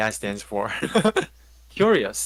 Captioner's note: laughs